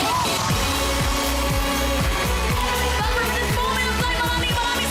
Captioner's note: applause, cheering